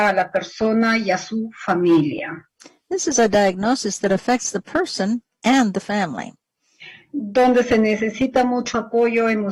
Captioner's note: speaking spanish